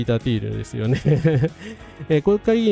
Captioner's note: laughter